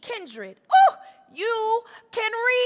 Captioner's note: exclaims